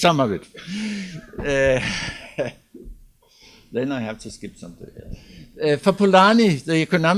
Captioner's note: laughs